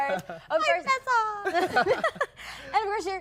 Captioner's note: laughter